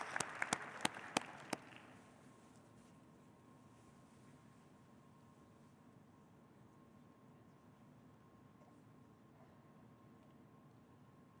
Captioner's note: applause